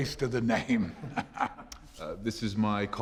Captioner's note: laughing